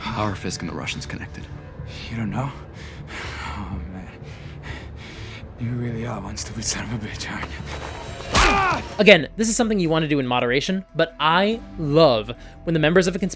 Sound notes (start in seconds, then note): 8.3 Crunch; 8.4 yells